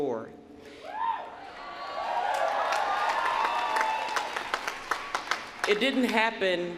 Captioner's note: cheering